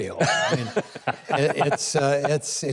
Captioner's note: hosts laughing